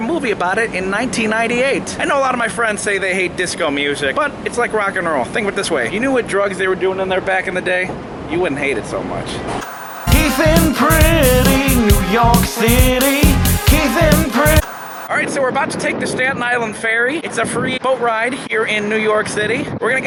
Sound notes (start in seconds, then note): 9.6 white noise scratching; 13.4 white noise scratching